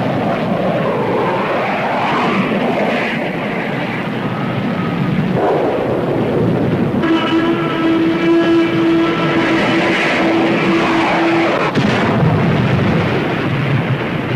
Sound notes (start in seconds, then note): 2.3 plane whooshing; 4.5 explosion booms; 7.2 plane whooshing; 11.4 explosion booms